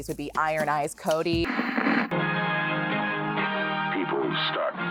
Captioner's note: static crackling